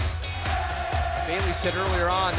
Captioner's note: fans chanting